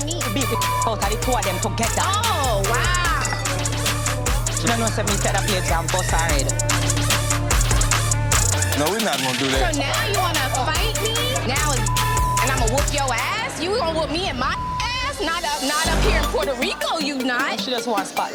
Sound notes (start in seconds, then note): 0.2 speaking in patois; 3.7 tense music; 5.1 speaking in patois; 7.0 tense music; 11.5 beep; 14.5 beep